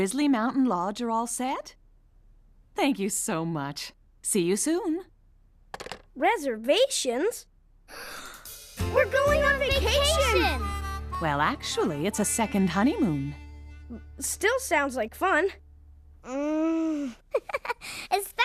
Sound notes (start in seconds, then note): 7.9 both Gasp; 17.3 chuckles